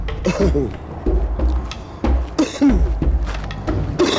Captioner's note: coughing